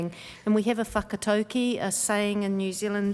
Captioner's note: speaking maori